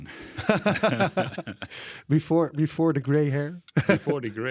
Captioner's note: laughs